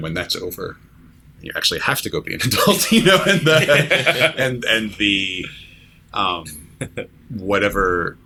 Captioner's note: laughter